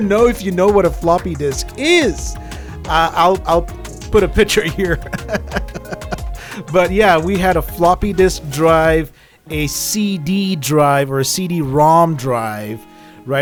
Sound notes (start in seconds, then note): 4.6 laughing